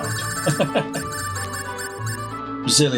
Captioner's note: chuckles